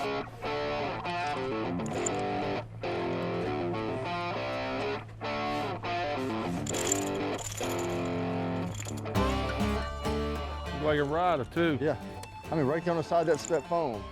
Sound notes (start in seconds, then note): 3.4 lure rattling; 13.9 twangy rock music